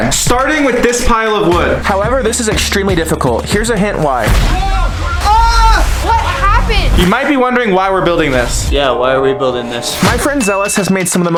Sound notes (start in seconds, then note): 4.5 screaming